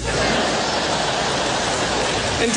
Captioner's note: laughter